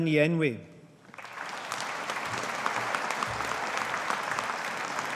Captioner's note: audience applauding